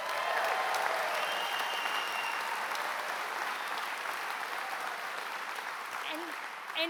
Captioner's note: applause